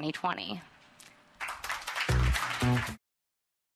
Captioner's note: applause